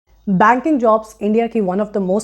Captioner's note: speaking hindi